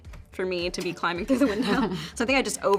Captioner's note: Brianne laughs